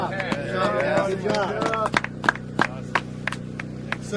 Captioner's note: applause